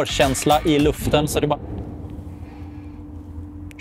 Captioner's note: loud bang in the background